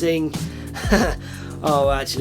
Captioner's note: awkward laugh